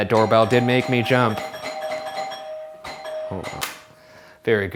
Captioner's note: doorbell rings